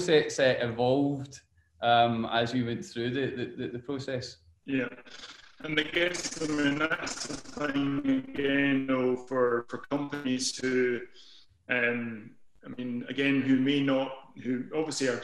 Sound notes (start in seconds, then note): 7.3 audio distorts